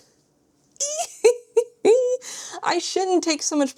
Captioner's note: squeals and giggles